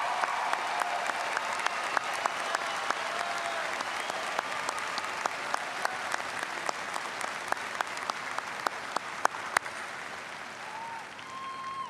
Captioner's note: applause